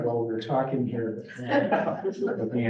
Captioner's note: laughter